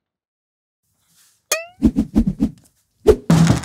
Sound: poing; hammer whirl; whack

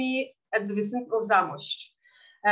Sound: speaking in Yiddish

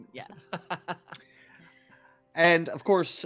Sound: laughing

